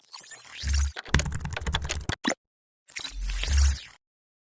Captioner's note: keyboard clacking